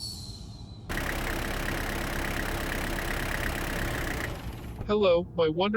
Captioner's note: car pulling up and stopping